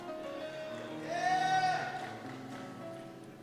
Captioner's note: cheers